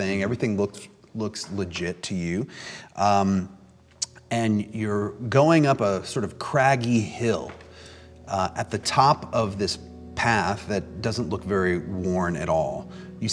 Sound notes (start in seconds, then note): none